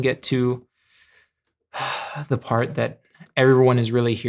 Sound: inhales and exhales

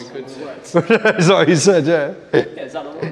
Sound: laughs

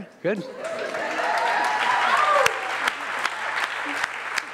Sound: audience cheers

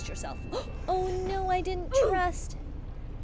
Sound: gasps

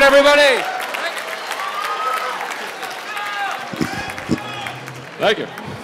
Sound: audience Applause

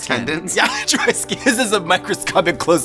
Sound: laughs

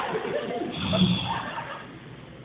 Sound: laughter; sigh

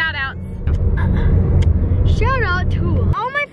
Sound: clears throat

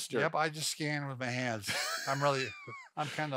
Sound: chuckling

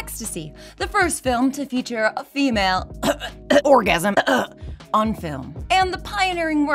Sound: coughorgasmcough

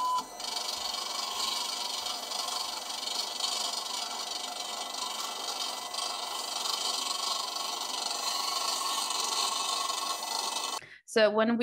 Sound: machine hissing and beeping

